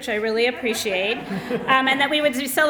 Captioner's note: laughter